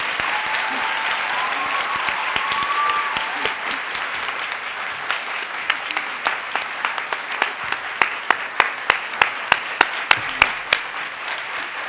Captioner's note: audience clapping